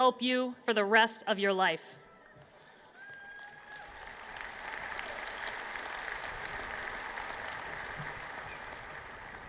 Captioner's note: applause